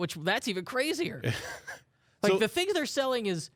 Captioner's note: laughs